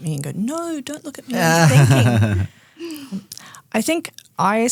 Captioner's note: group laughing